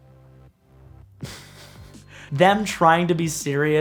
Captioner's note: laughs